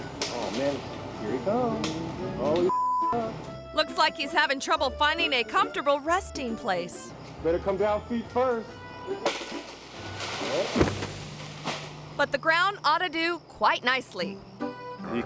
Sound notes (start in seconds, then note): 2.7 beep; 10.6 body thuds